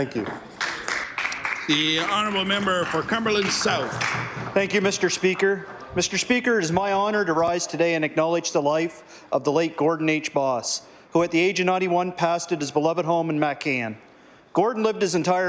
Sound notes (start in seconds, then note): 8.6 applause